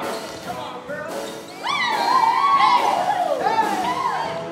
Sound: cheering; upbeat music

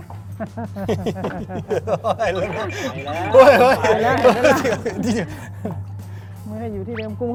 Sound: laughter

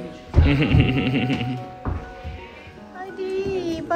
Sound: laugh

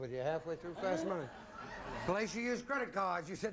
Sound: audience laughing

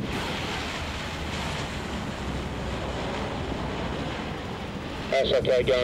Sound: plane engine roaring

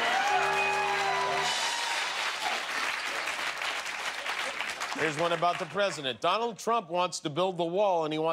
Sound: cheers and applause

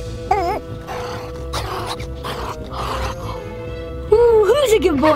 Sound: Red growling

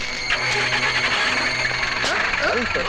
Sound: car engine starts

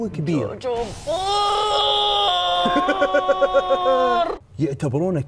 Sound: laughs

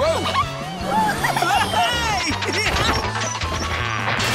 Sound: laughing

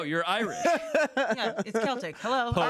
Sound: laughs

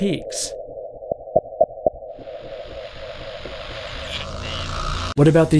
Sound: argument interrupted by mysterious digital interference

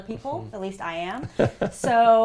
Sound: laugh

